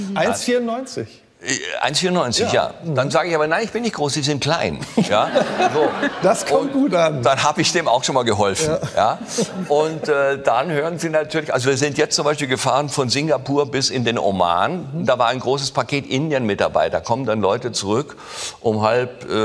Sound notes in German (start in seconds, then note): 4.8 Gelächter